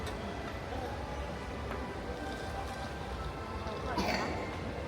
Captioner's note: guests talking